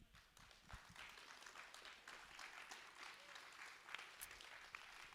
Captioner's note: audience and applauding